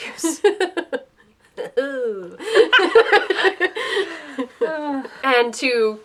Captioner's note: laughter